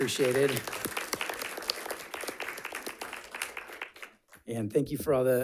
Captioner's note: audience clapping